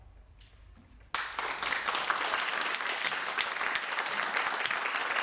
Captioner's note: audience applauding